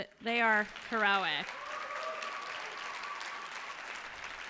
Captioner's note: cheers and applause